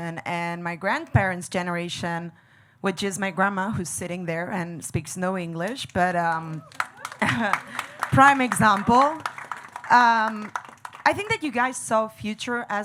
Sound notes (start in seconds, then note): 9.4 audience clapping